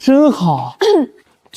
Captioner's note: cough